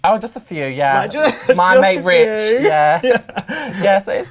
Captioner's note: laughs